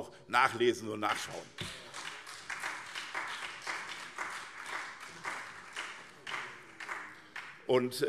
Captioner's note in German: Beifall SPD und vereinzelt CDU